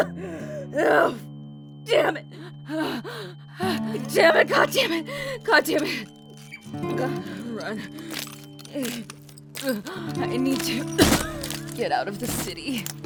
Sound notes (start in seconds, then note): 0.0 Emily coughing, ears ring; 8.2 footsteps againt broken glass; 10.8 Emily rasps, heaves; 12.8 breathing heavily